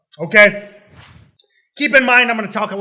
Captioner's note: swoosh